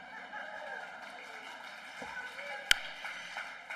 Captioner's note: applause